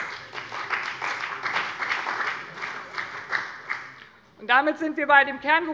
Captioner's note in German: Beifall bei dem BÜNDNIS 90/DIE GRÜNEN und der CDU